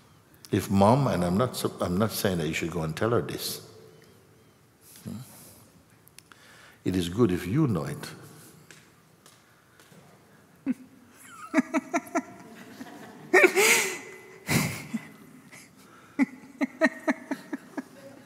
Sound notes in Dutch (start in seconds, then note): 11.2 gelach